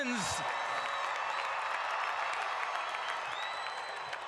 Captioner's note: cheers and applause